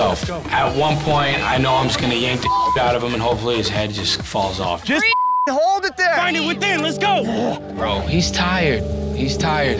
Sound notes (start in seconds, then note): 2.4 beep; 5.0 beep